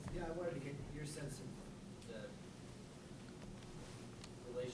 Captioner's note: voiceover